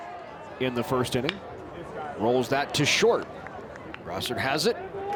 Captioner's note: bat smacks